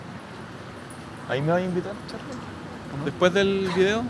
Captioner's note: laughs